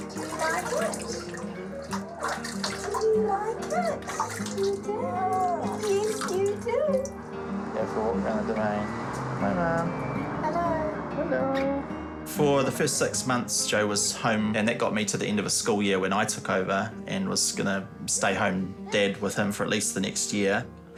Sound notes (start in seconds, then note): 0.0 water splashes; 5.6 baby coos